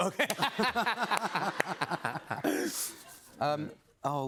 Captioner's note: laughter